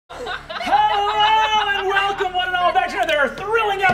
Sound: players laughing

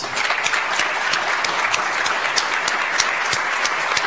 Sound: audience applauds

